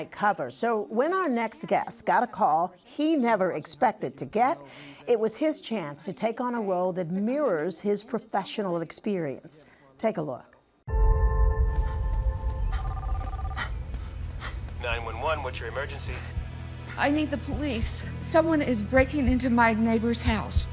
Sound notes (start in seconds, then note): 12.8 line rings; 13.4 panting